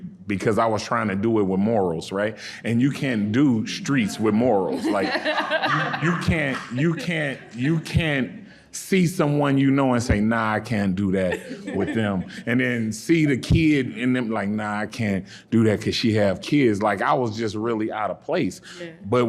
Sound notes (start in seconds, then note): 5.4 audience and panelists laughing